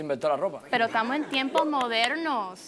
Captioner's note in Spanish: Risas